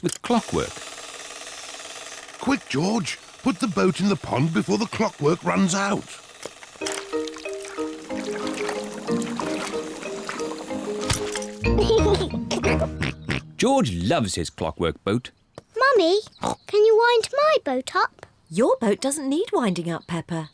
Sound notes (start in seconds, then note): 11.6 giggles